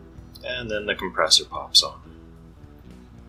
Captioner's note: speaking of fan in background